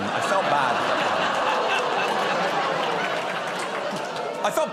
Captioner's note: laughter